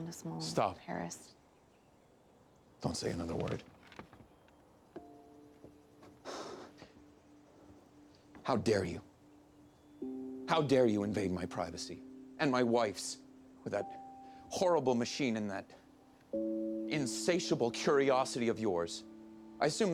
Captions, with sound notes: DON'T SAY ANOTHER WORD. [HUFFS] HOW DARE YOU? HOW DARE YOU INVADE MY PRIVACY? AND MY WIFE'S WITH THAT HORRIBLE MACHINE AND THAT INSATIABLE CURIOSITY OF YOURS? I ASSUME THAT'S WHAT YOU DID.